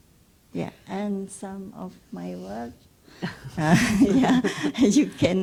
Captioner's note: laughs